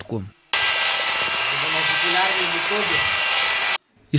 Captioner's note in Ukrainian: Звук будівельного міксера